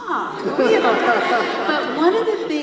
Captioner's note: audience laughs